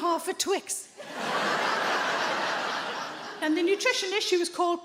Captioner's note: audience laughs